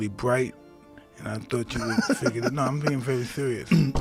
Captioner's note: giggles